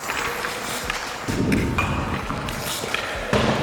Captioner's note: skates swish; puck thuds